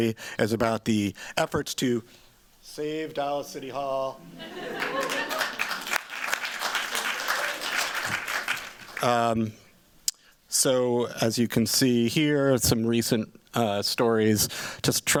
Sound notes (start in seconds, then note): 4.7 applause